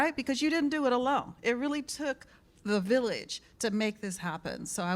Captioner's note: none